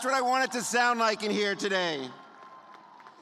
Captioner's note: cheers